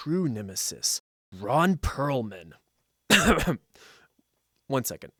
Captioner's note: clear throat